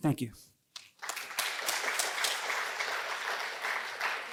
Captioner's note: applause